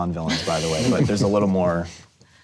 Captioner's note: everyone laughs